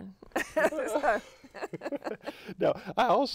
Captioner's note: laughter